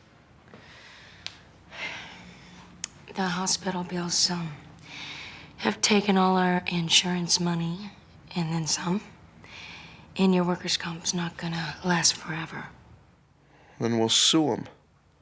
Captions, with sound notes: (sighs) The hospital bills have taken all our insurance money and then some. And your workers' comp's not gonna last forever. - Then we'll sue 'em.